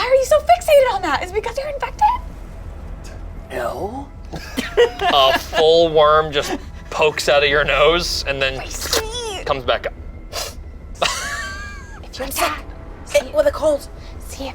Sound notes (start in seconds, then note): 4.3 group laughs; 10.3 sniffs